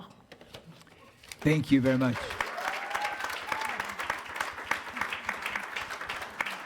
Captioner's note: attendees applauding